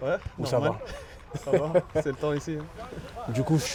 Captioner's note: laughs